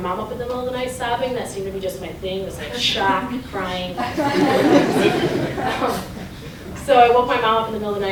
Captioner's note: laughter